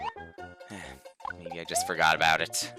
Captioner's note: sigh